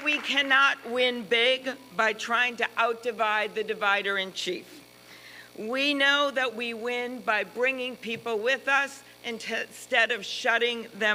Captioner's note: applause